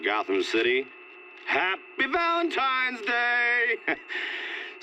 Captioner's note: chuckles